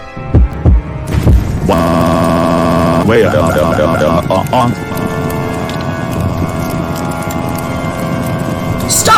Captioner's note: Doug Screaming Continuously